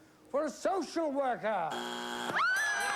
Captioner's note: buzzer